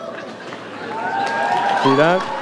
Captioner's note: audience cheers